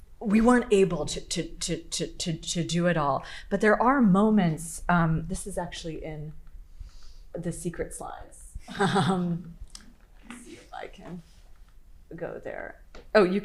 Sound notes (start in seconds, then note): 8.7 laughing